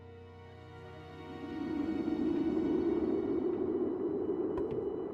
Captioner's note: wind whirling